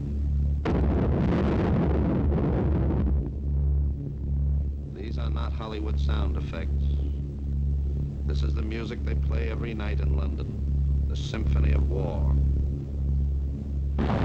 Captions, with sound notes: (bombs exploding) These are not Hollywood sound effects. This the music they play every night in London, the symphony of war.